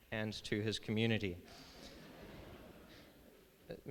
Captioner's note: laughter